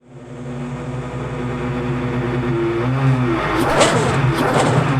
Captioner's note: engine humming